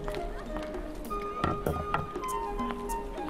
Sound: plate set down; footsteps

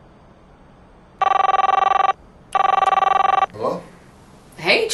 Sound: phone rings

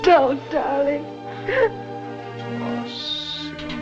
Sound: sobs

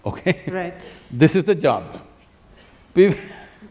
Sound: laughs; laughs

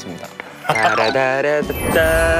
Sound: making sound effect lol

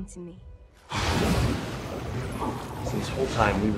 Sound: waves whooshing

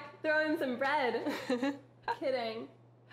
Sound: laughing

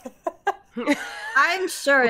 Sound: team laughs

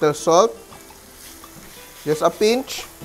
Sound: sizzling sound

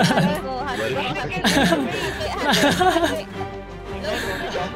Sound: laughing

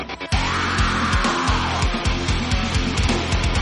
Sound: scream

